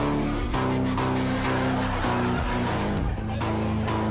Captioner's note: audience laughs